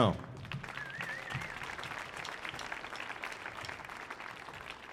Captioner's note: audience applauding